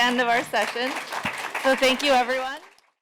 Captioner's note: applause